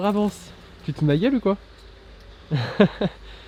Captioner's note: laughs